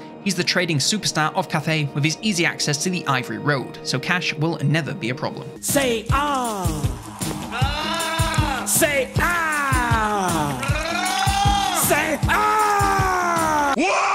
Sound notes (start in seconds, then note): 6.4 upbeat music; 7.5 man gurgling; 10.7 man gurgling; 13.9 man yelling